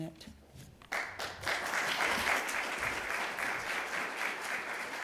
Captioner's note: applause